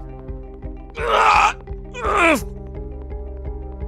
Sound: Chase groans

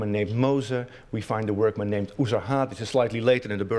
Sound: non-english speech

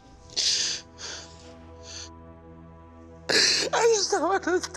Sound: sobbing

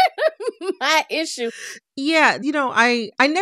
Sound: laughter

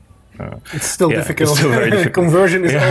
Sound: laughs

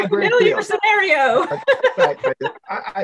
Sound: people laughing

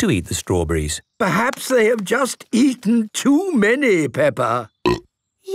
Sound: burp

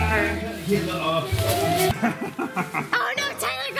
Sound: chuckles

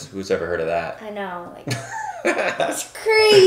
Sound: laughing

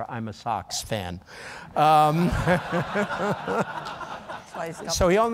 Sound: laughter

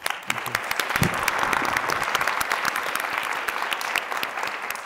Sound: applause

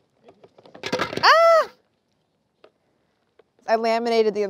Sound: claire yelling

